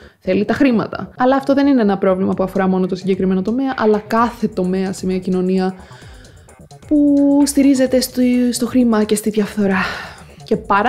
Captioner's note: sigh